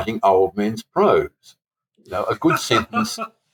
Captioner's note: chuckle